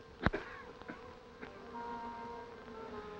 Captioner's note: coughing